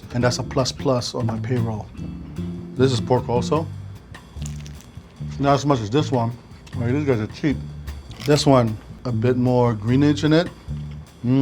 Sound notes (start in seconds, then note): 4.3 egg roll crunching